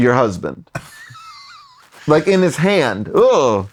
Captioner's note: laughs